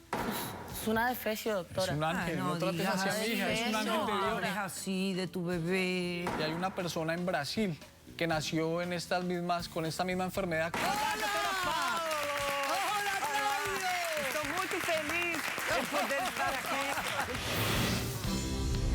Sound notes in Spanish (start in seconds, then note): 10.8 aplausos